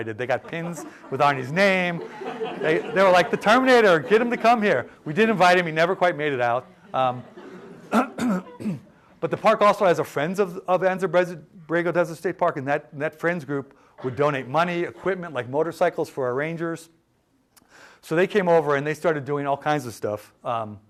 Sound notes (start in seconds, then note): 0.2 laughter; 6.9 laughter